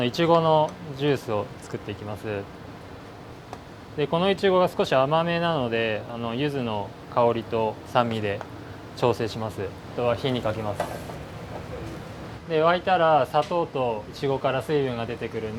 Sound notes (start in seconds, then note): none